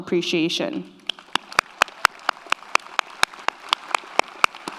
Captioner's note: audience applauds